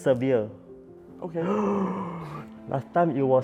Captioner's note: gasps dramatically